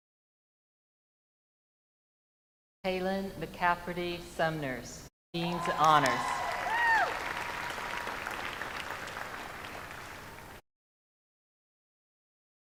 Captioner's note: names being called